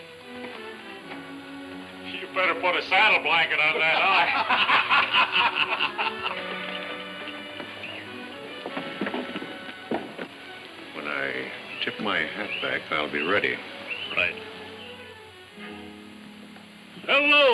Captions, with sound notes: when you're ready. - You better put a saddle blanket on that eye. (men laughing) - When I tip my hat back, I'll be ready. - Right.